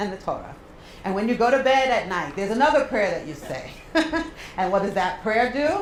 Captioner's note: laugh